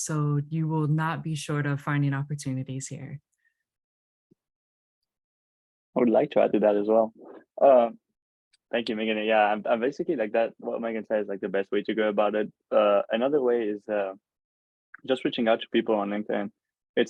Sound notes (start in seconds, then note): none